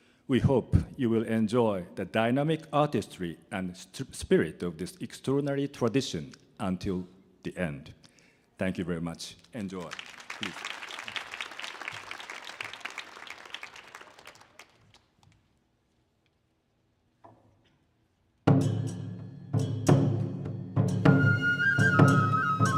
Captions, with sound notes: We hope you will enjoy the dynamic artistry and spirit of this extraordinary tradition until the end. Thank you very much. Enjoy. [audience clapping] [upbeat Japanese folk music]